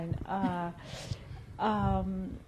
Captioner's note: laughs